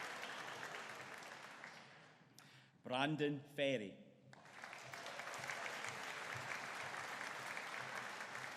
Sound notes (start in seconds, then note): 4.4 audience applauding